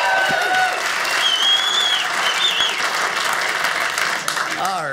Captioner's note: audience applauding